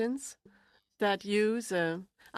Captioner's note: speaking French